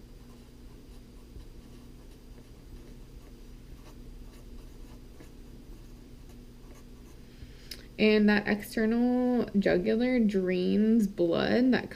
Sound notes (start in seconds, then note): 0.6 pen writing on paper